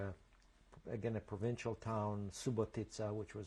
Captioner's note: non-english